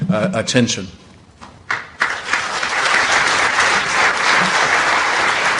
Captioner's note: applause